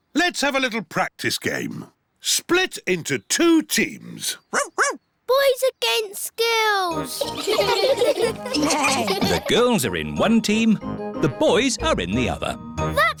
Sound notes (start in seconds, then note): 4.5 barks; 7.0 all giggling